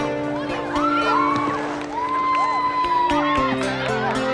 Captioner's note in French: acclamations